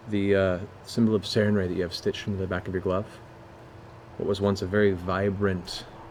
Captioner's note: none